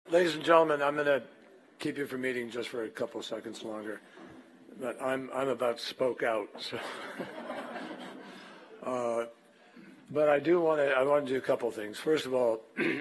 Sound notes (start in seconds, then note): 6.8 laughter